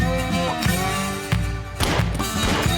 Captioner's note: gunshot; more gunfire